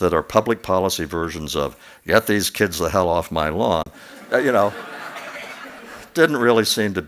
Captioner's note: laughter